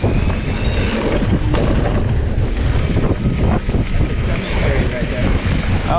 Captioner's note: bike thumps; bike ratchets